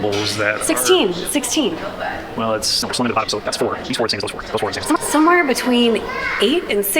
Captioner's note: engineering babble